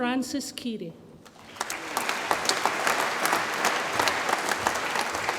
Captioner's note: audience applauds